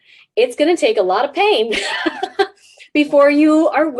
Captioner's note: laughs